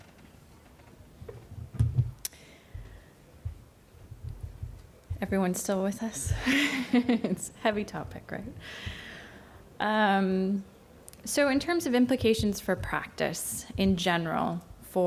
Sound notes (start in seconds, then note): 6.3 laughs